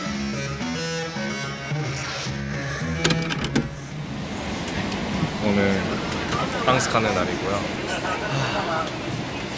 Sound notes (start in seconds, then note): 8.2 sigh